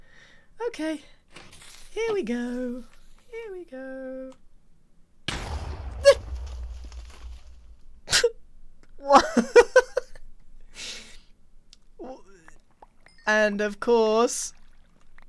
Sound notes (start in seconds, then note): 7.7 sad noises; 8.9 laughs